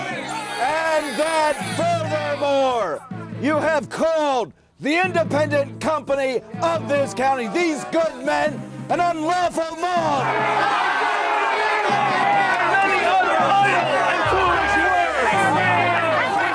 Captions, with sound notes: AND THAT, FURTHERMORE, YOU HAVE CALLED THE INDEPENDENT COMPANY OF THIS COUNTY, THESE GOOD MEN, AN "UNLAWFUL MOB"! [crowd yelling] AND MANY OTHER IDLE AND FOOLISH WORDS!